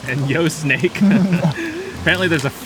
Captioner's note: all laughing